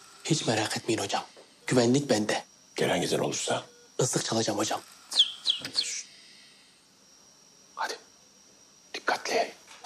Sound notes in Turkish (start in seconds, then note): 5.1 Islık çalıyor